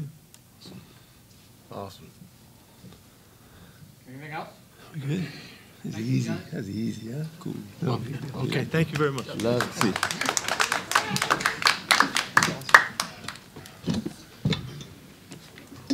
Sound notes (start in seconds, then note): 11.0 audience clapping; 13.2 chairs shuffling